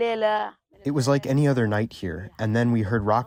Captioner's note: through translator